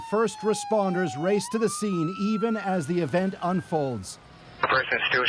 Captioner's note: sirens